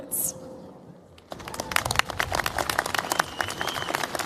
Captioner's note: cheers, applause